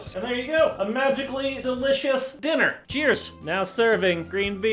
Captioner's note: none